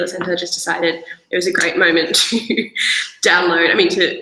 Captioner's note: chuckles